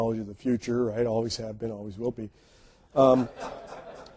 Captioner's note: audience laughs